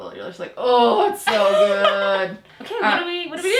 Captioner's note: laughing